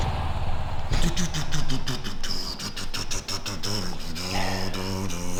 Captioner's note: imitating electric guitar